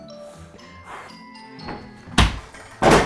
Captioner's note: laughs; exhales